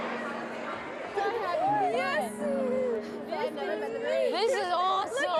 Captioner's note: gentle, thoughtful music; excited chatter